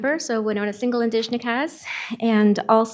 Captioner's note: speaking Ojibwe